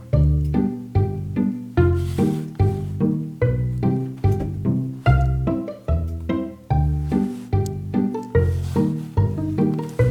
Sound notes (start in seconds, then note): 4.3 Radius thumps to the floor